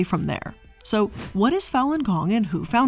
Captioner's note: air whooshing